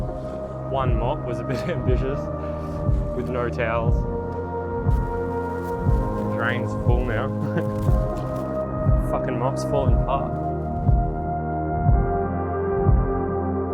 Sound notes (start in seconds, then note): 0.0 intense music; 4.5 intense music; 7.0 laughs; 10.9 intense music